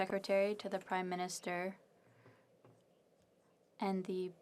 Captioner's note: speaking French